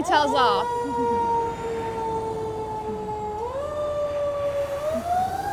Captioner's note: fire sirens wailing